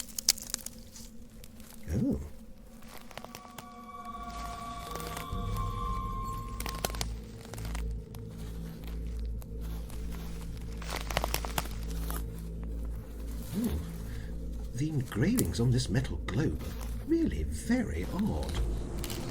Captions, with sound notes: Oh! [Rustling of branches] Oh, the engravings on this metal Globe are really very odd...